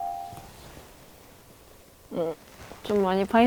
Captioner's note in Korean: 흐음